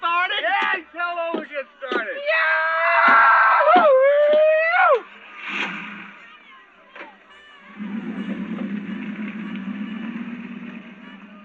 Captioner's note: screaming